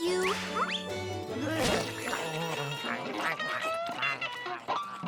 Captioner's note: chewing; frustrated groan